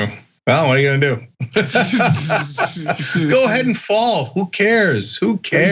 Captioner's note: laugh